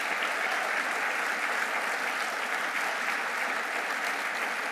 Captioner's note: audience applauding